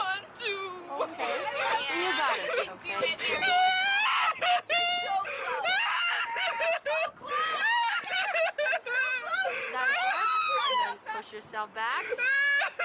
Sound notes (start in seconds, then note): 1.2 encouraging cheers from friends; 3.2 crying and screaming